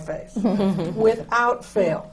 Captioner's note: laughter